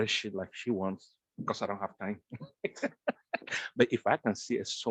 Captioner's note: chuckle